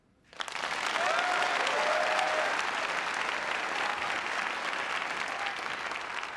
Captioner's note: applause